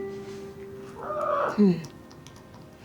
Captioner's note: kitty squawks